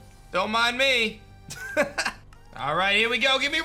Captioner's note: laughs